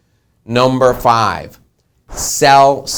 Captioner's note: whooshing